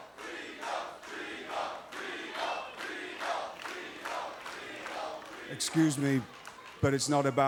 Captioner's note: fans chanting